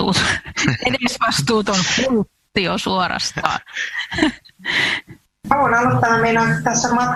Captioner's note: naurua